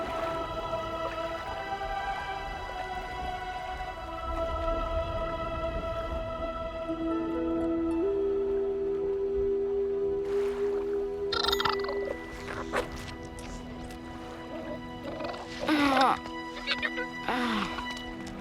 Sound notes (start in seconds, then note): 11.3 chittering; 14.6 groaning